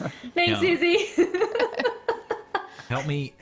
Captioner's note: all chuckles; giggles